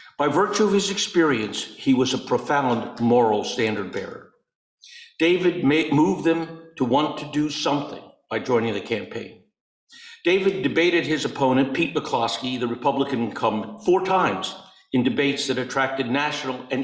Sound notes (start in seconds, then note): none